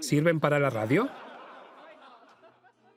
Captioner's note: crowd laughing